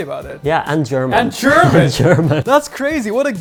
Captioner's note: chuckles